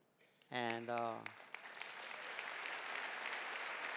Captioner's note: clapping